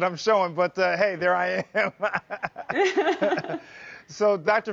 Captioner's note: both laugh